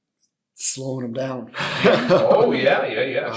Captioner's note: laughs